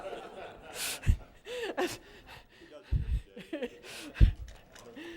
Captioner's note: laughter